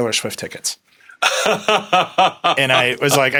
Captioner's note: laughing